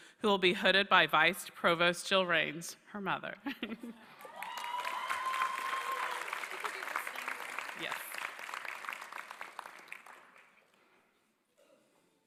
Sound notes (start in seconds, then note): 3.4 laughter; 8.2 applause